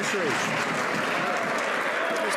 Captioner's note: some Applause